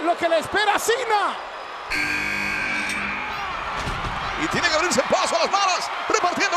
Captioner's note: applause